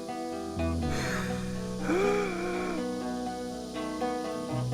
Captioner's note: Johnny gasping